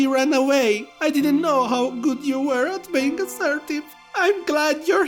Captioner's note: tearful